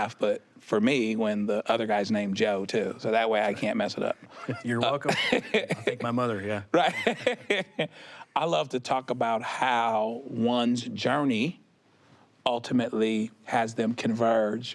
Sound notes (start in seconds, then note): 6.8 laughs